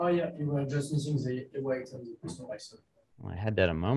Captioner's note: faintly speaking